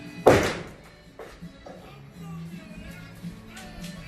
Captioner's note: hammer hits wood